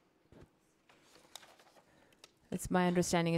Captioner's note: papers rustling